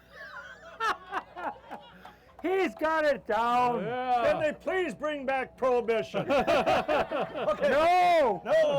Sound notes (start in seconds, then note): 1.0 laughing; 6.2 laughing